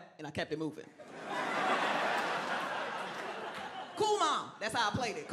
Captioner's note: crowd laughing